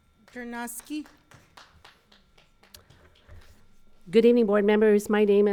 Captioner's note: audience applauding